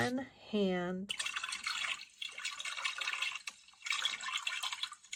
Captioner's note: water gurgles